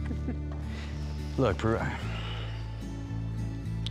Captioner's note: sighs